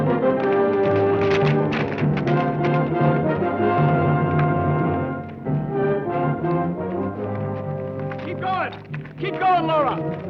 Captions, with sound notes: (hooves clack) Keep goin'! Keep goin', Laura!